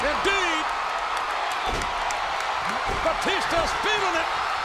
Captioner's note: audience cheers